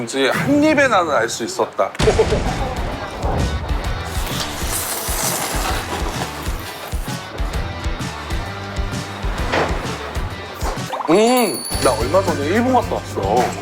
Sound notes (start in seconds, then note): 3.9 slurp slurp